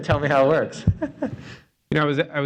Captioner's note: laughter